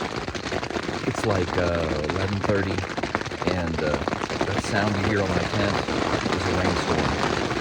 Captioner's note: mike and static sounds